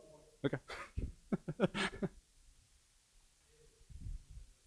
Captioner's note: laughs